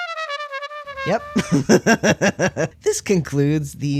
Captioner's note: off-key trumpet; laugh